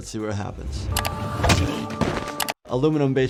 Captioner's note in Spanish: Golpe de bate